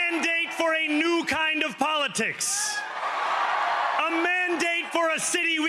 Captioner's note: cheering